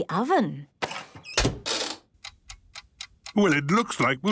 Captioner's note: dial cranking, oven ticking